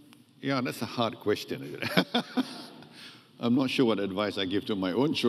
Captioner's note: laughs